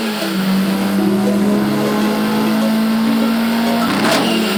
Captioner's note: engine roars